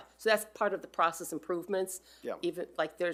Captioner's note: none